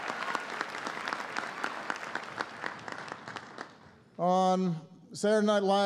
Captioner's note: applause